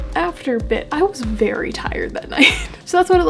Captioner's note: laugh